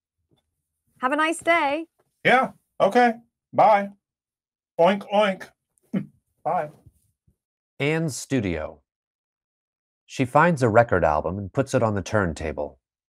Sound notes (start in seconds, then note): 6.0 chuckles